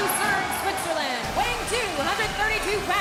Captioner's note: crowd cheering